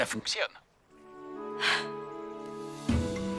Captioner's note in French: soupirs